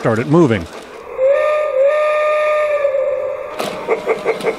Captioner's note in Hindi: एक भाप ट्रेन सीटी की आवाज